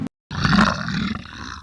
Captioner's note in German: Löwengebrüll